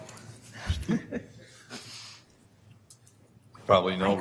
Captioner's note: laughing